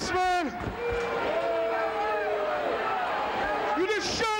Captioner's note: crowd boos